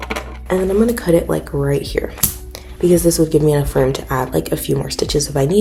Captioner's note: scissor cuts